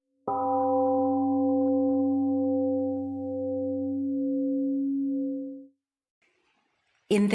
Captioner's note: temple gong rings and fades